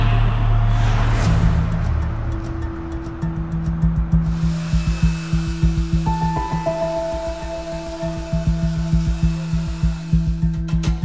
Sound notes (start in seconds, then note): 2.5 instrumental music; 4.3 blow dryer whirring